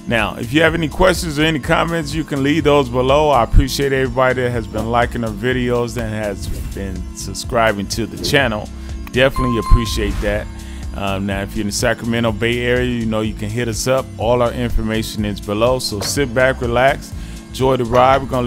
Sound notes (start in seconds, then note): 9.3 bells ringing